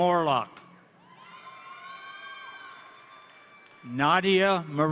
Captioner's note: crowd cheering; crowd applauding